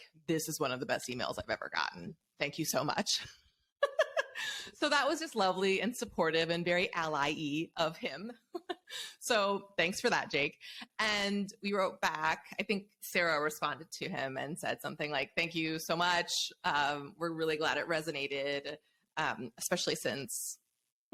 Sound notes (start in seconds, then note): 3.9 laughs